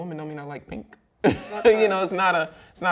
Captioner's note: laughs loudly